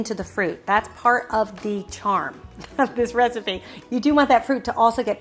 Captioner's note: laughs